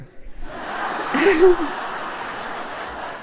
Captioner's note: laughter